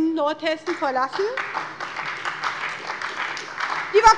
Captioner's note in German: Beifall bei der SPD